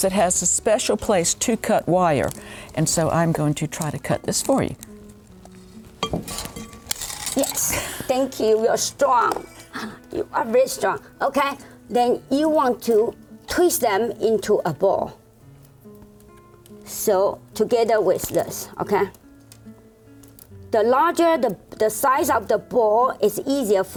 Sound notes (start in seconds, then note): 5.4 clanking